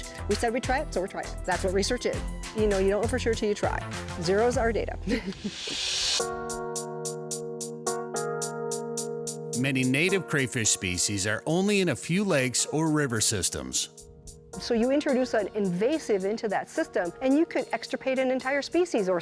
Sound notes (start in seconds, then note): 5.1 laughs; 5.6 upbeat instrumental music